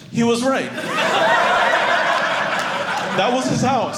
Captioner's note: audience laughing